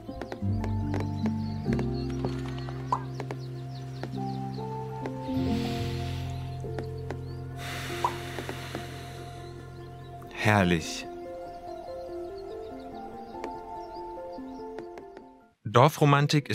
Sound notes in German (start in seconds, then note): 4.9 seufzen